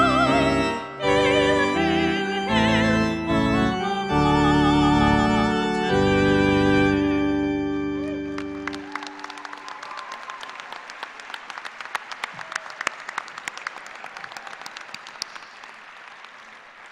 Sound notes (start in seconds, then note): 10.7 applause